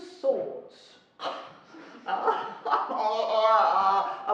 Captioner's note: laughing